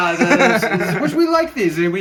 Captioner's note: laughing